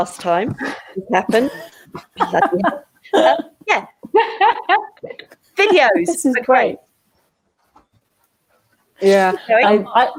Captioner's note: women laugh